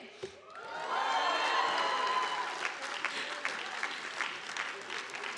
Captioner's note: audience applauding